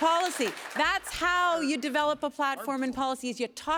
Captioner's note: applause